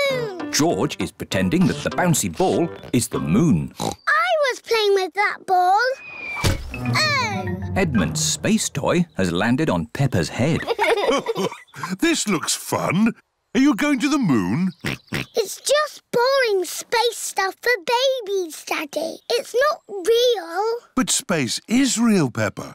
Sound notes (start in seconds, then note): 3.7 oinks; 6.3 thudding; 10.4 chuckles; 14.8 oinks